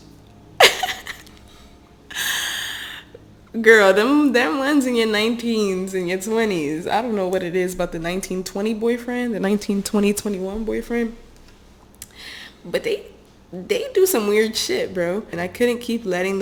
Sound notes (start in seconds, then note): 0.6 laughs in self awareness; 2.1 sigh of relief